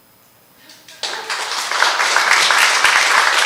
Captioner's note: applause